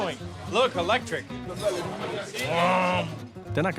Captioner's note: imitates motor sound